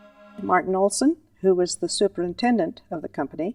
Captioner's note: voiceover